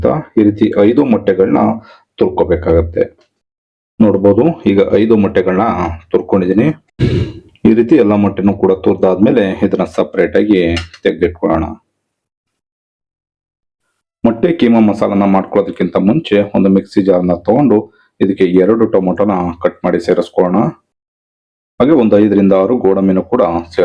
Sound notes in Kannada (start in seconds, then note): 7.0 ಗಂಟಲು ಸರಿಮಾಡಿಕೊಳ್ಳುವಿಕೆ